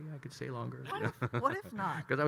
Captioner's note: laughing